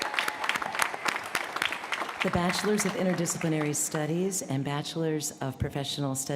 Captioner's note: cheers & applause